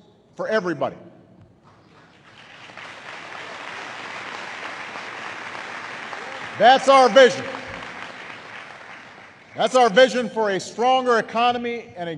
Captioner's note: applause